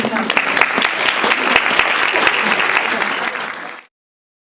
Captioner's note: applause